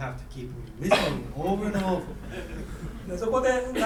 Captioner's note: coughing; speaking in foreign language